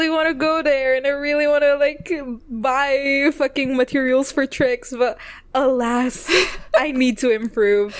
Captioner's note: laughs